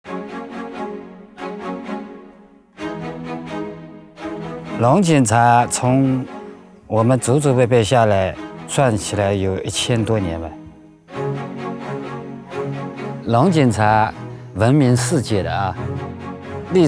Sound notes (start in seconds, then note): 0.1 upbeat music; 4.1 speaking in foreign language; 10.1 upbeat music